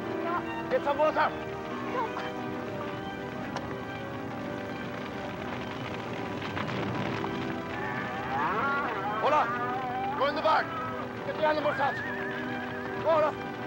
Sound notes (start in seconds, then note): 4.5 fire crackling; 7.7 cows mooing